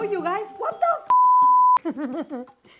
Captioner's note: beeping; laughing